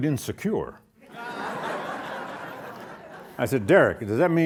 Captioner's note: audience laughing